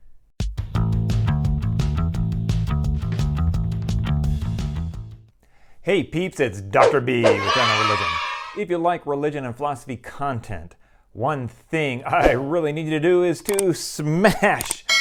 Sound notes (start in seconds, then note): 7.2 kids cheering